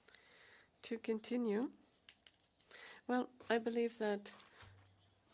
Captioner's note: speaking French